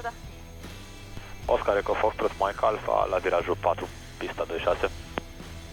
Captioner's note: radio chatter